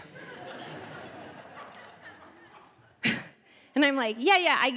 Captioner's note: audience laughing